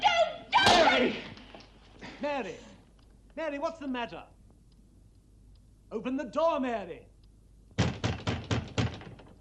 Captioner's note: screaming